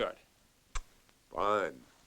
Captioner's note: smooches